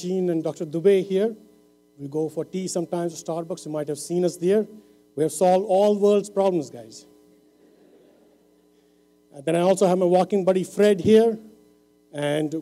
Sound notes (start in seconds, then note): 8.7 laughter